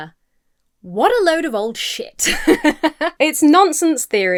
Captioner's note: laughs